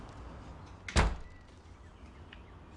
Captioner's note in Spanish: Sonido al cerrar la puerta